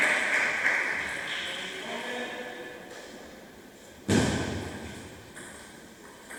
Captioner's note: applause